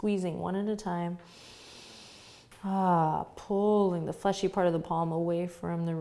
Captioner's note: inhales deeply